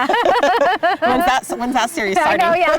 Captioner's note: laughing